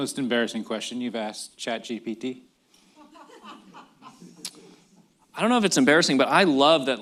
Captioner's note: laughter